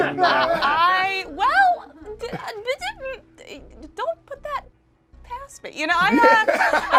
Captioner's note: stammers